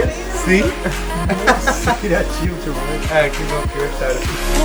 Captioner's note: laughs